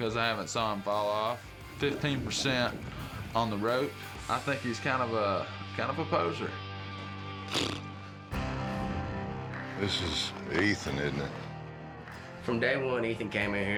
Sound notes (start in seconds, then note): 7.4 blows raspberry